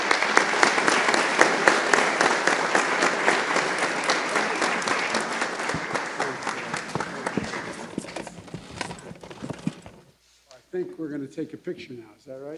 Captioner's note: applause